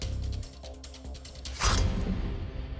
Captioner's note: swishes